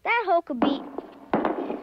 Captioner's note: rock falling